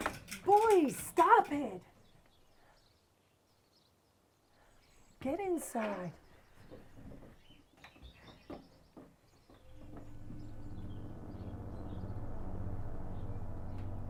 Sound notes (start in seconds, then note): 6.2 birds chirping; 10.1 ominous and menacing electronic music